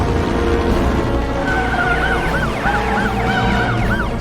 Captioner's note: sirens blaring